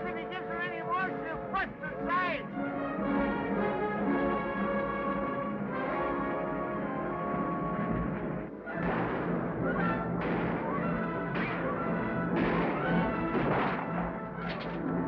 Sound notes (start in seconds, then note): 3.3 exciting music; 8.6 exciting music; 8.8 guns bang